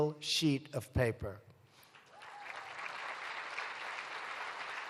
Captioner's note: applause